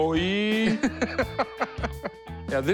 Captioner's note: laughing